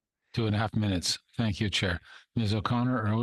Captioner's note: speaking French